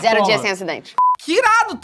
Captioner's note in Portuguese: som de bipe